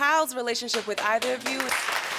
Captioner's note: audience applauding